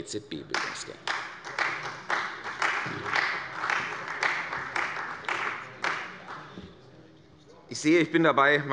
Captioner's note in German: Beifall bei der CDU und dem BÜNDNIS 90/DIE GRÜNEN